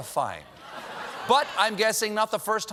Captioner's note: audience reacts